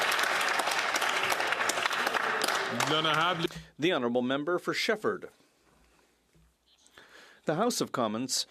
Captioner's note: some Applause